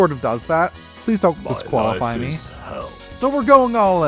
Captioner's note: Bernd das Brot noises